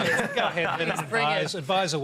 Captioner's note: laughter